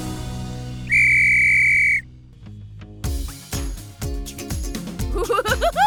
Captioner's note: whistle blowing